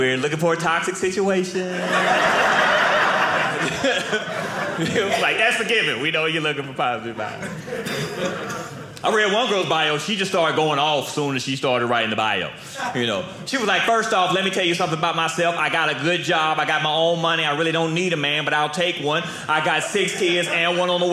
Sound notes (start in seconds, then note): 1.6 audience laughing